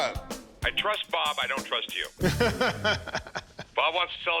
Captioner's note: laughs